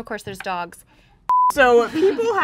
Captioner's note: beep